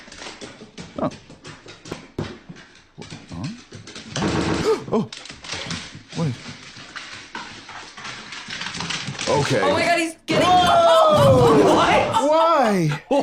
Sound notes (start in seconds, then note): 4.6 gasps